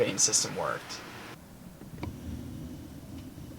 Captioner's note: whispering: Yes!